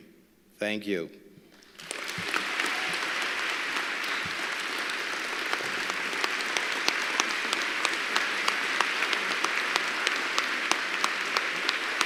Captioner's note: applause